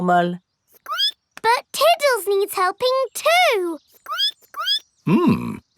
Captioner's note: squeaks